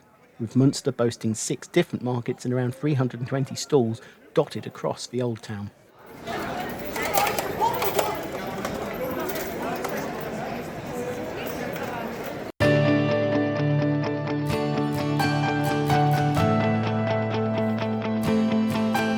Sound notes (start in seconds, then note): 5.8 sound of bustling market street